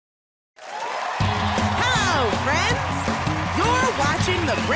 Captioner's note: cheers and applause